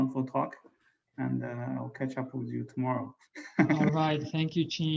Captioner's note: chuckles